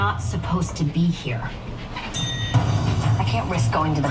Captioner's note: bell dings